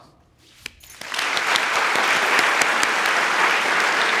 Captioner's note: everyone applauding